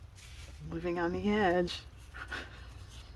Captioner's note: laughs